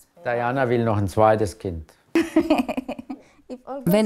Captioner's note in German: lacht